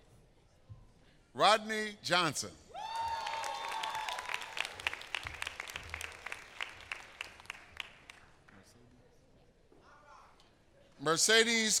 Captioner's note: applause